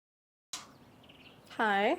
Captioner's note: birds chirp